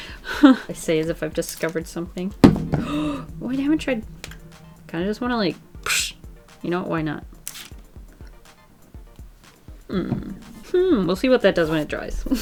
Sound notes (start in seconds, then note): 2.8 gasps; 5.7 makes sqooshing sound